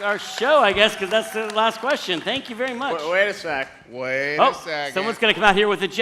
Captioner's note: applause